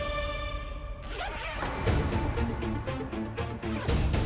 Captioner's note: zips bag